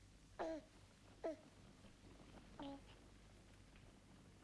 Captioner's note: baby cooing